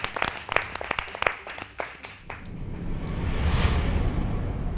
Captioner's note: people continue clapping; intense music